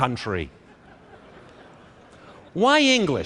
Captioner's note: laughter